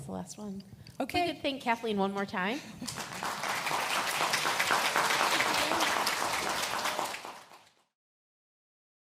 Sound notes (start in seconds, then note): 2.8 applauds